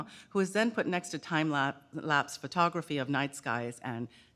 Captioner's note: none